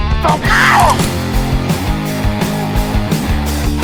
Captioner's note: bones crack